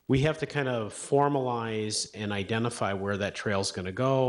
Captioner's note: none